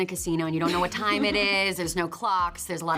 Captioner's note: Toni laughs